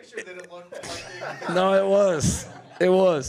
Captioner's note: audience laughing